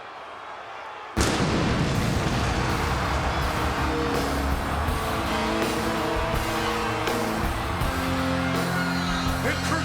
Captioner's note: applause